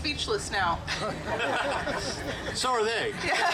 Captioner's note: group laughing